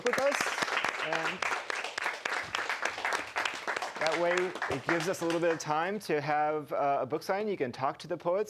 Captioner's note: audience applauding